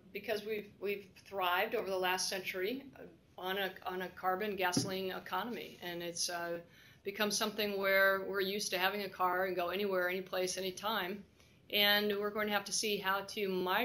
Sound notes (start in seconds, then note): none